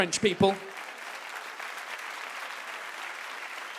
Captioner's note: audience claps